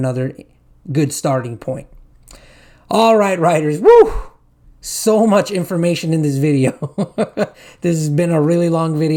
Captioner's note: whew!